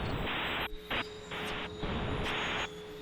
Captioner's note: static noise